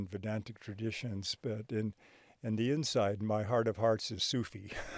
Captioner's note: chuckles